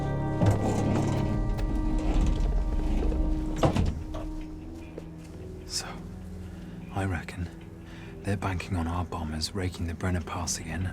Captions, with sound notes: (door clicks) - So I reckon they're banking on our bombers raking the Brenner Pass again